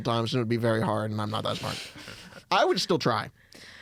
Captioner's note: laugh